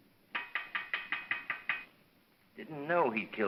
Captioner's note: metal tapping